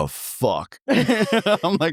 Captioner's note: laughing